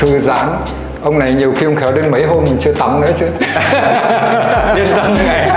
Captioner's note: laugh